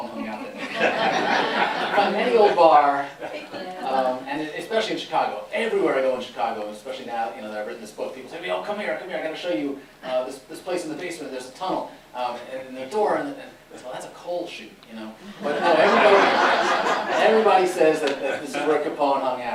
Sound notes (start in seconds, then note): 0.2 laughter; 15.2 laughter